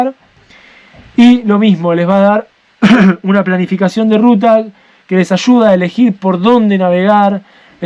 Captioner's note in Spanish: carraspeo